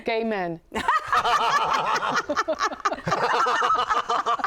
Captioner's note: laughing